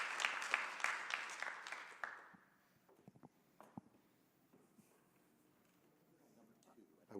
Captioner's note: applause